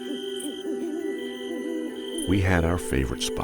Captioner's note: owl hooting